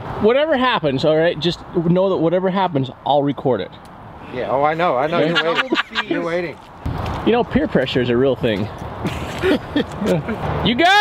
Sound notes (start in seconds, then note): 9.0 laughter